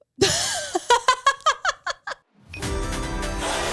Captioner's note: laughs; relaxed ensemble music